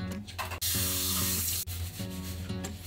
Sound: faucet runs

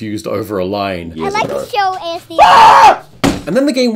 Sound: screaming; thudding

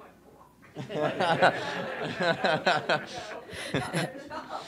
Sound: all chuckling

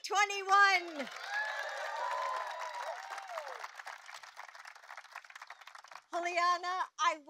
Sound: applause

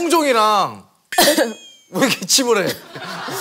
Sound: pricked? / Coughing

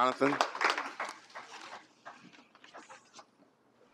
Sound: applause

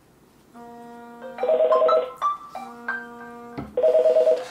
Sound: phone ringing

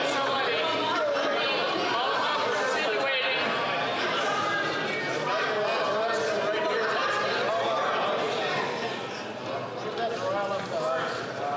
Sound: chatter

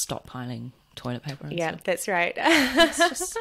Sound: laughs

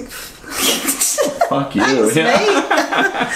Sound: laughter

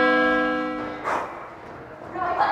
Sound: breathing

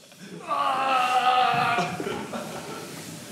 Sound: grunts

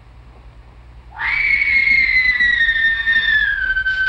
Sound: screaming

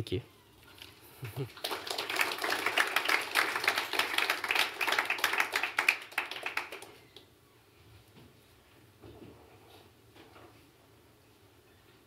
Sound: applause

